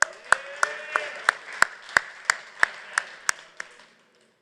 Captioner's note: applause